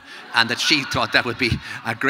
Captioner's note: audience laughing